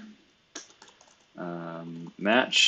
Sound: computer keyboard clicking

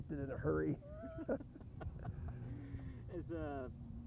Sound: laughter

